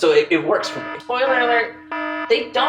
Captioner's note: alarm blaring